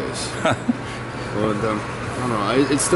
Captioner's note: interviewer laughs